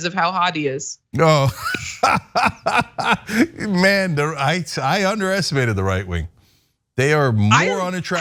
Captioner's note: laugh